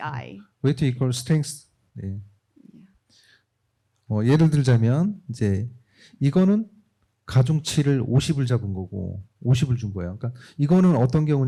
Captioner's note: speaking korean